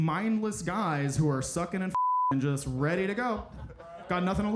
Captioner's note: beeping